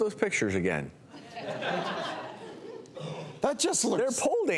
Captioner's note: audience laughs